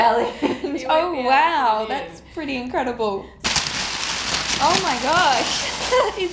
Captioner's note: ripping